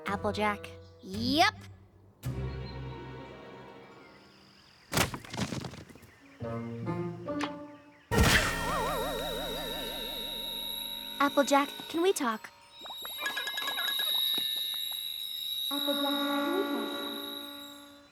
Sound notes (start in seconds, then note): 8.1 thud!; 9.1 ears ringing; 13.1 ringing